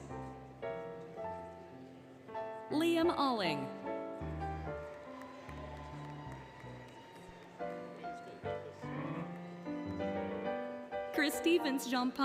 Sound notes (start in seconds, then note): 4.1 applause, Cheering, Music; 7.5 indistinct Chatter, Music